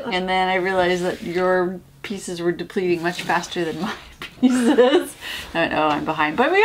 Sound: laugh

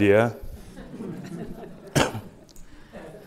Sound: laughter

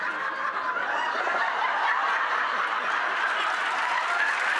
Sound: crowd laughing

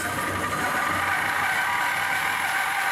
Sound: shrill sawing noise

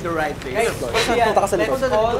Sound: snickers

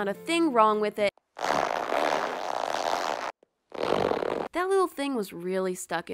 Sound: more unnecessary ripping noises

